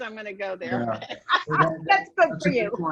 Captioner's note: multiple people laughing